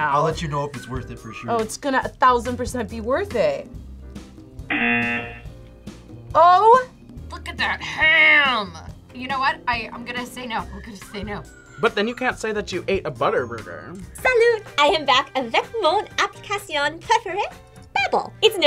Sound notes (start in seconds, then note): 4.7 buzzer